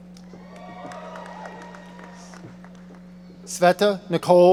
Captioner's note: audience applauding